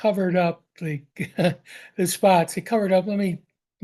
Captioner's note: laughs